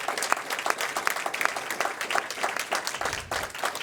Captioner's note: applause